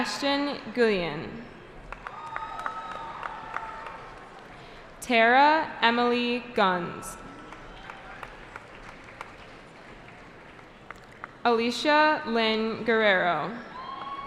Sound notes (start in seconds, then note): 1.8 cheering; 7.2 applause